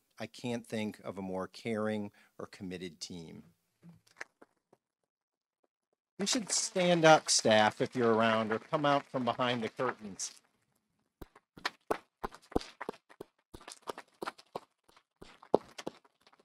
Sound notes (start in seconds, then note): 4.5 audience applauding